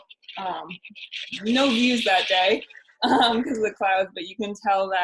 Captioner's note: chuckling